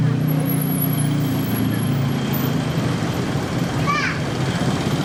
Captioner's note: motorcycle running